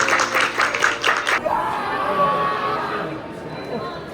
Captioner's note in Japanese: 拍手